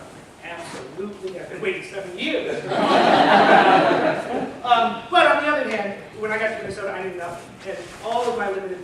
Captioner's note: laughter